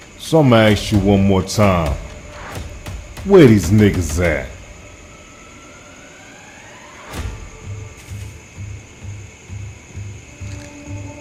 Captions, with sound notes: So I'm gonna ask you one more time, where these niggers at? (dramatic music) (crickets chirp)